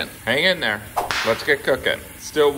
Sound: whip cracking

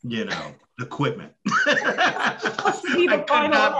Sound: laughing

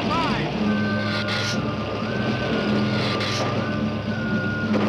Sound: Gila monster hissing

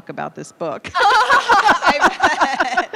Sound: laughing

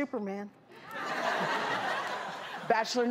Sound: laughing

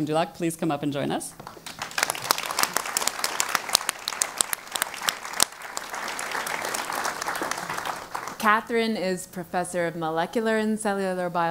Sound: applause

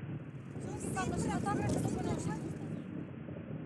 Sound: chatter

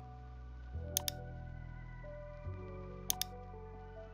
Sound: mouse clicking

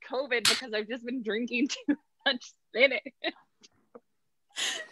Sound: laughs

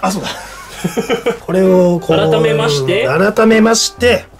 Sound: laughter

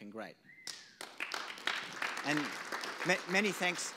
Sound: audience applause

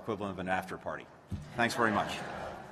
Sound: laughter

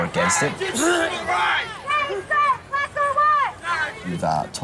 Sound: chanting

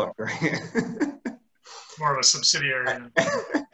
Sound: laughs

